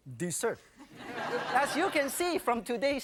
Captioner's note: audience laughing